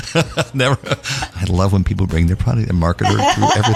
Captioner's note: laugh